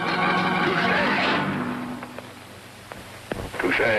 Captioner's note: mirror thuds